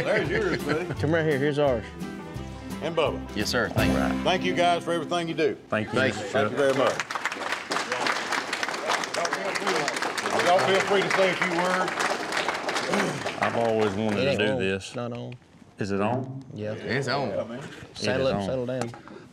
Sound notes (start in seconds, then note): 6.1 applause